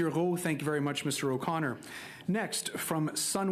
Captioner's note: speaking French